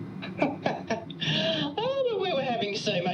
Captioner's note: laughing